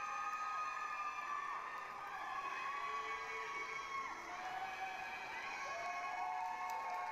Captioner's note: applause, cheering